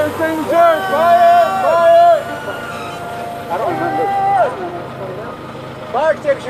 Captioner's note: siren ringing